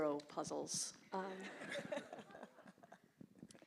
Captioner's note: laughter